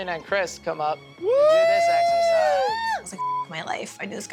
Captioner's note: cheering